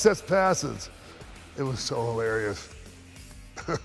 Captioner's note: laugh